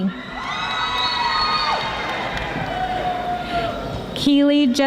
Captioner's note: audience applauding